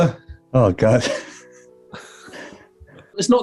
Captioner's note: sniggering